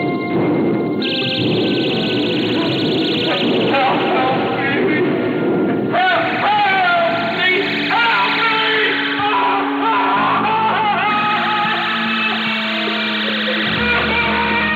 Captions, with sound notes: Hel... Help me! Help! Help me! Help me! (loud terrified screaming)